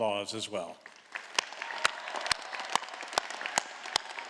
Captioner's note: all applauding